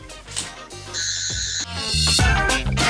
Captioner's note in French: bruit aigu